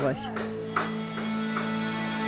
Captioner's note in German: Hämmern